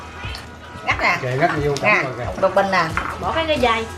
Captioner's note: people are talking